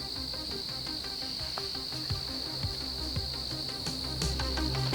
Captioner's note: crickets chirping; tense music